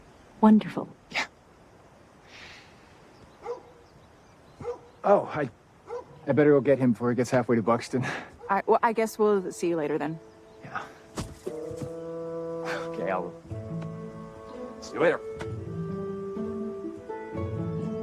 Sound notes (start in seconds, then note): 3.4 barking